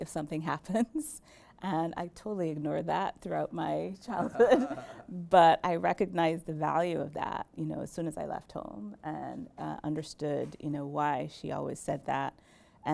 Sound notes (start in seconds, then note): 4.2 laughs